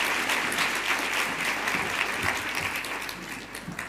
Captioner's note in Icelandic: fagnaðarlæti